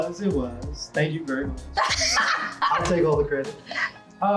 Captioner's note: Kandi laughing